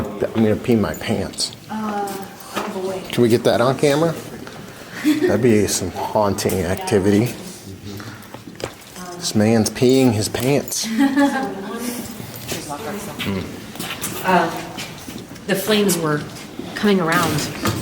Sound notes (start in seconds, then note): 10.8 laughs